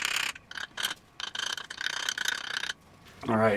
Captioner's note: tapping